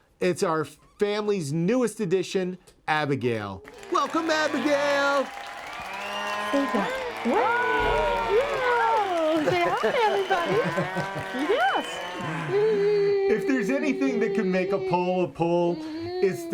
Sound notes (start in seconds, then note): 3.8 mooing and applauding; 6.4 mooing and applauding continues; 8.1 mooing and applauding drown out other sounds